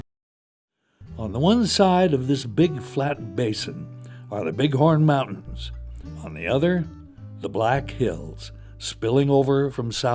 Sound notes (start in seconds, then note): 2.5 voiceover